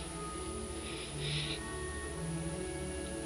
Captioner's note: soft music; sobbing